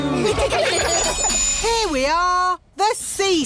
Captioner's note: laughter